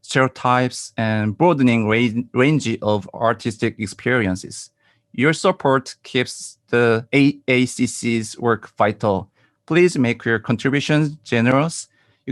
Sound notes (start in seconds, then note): none